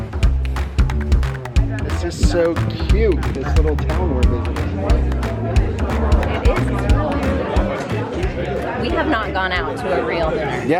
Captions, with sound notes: This is so cute. This little town we're visiting. (diners chatter) - We have not gone out to a real dinner.